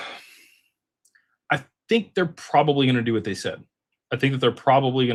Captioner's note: sighs